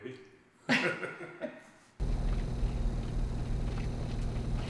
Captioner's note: both laughing